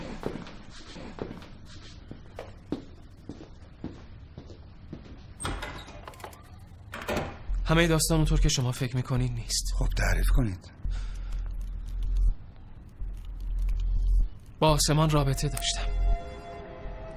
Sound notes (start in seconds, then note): 0.0 footsteps; 5.4 door opening; 6.8 door closing